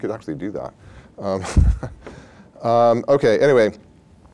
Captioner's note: laughs